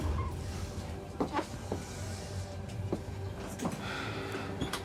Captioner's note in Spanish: ruido al abrir